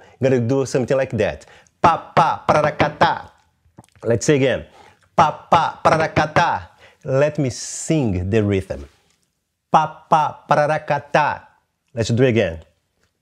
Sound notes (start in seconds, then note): 1.7 vocalizes rhythm; 5.0 vocalizes rhythm; 9.6 vocalizes rhythm